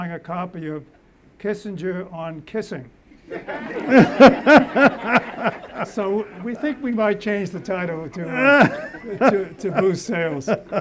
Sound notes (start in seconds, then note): 3.2 audience laughs